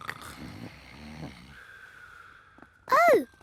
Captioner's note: snoring